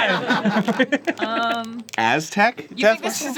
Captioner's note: laughing